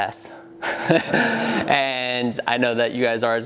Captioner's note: laughing